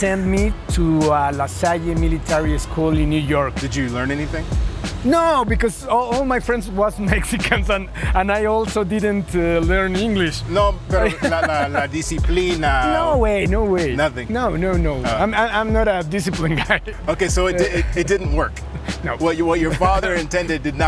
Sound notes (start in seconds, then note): 10.8 interviewer speaking in a foreign language